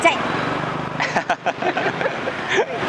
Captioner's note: laugh